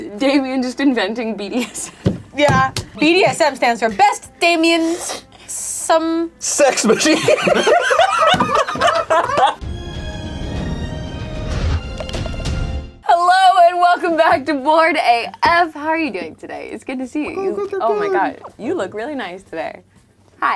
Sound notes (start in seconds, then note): 6.7 all laughing; 9.5 dramatic music